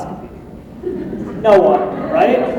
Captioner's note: laughter